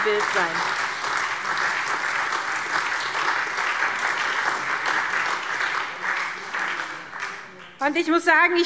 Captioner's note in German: Beifall SPD und Freie Demokraten